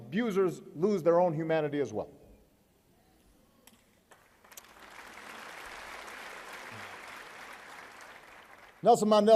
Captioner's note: applause